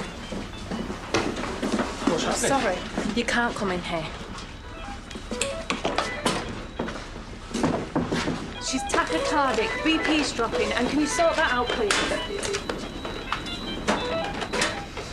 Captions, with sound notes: *Machines continue to beep* - What's happening? - I'm sorry! You can't come in here. *Alarms continue to sound* She's tachycardic! BP's dropping and can you sort that out please. *Machine alarms continue to sound*